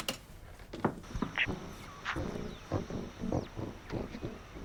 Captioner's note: static hisses